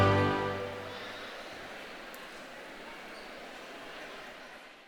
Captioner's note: crowd murmuring